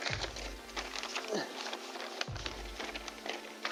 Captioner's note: grunts